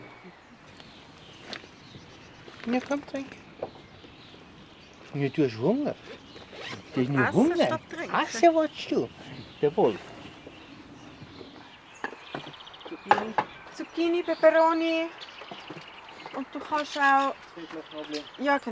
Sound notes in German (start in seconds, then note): 5.0 auf Schweizerdeutsch